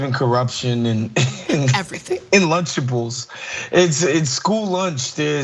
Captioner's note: laugh